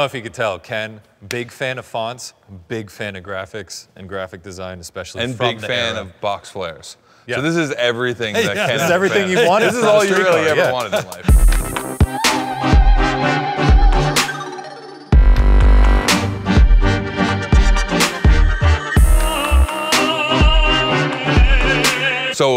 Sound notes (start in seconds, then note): 8.3 Ken laughed; 11.5 rhythmic instrumental music